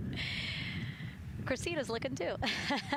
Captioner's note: laughter